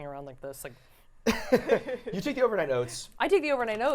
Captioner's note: laughter